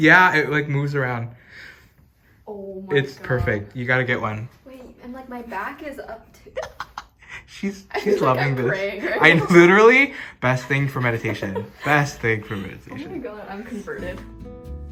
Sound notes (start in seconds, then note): 6.4 laughs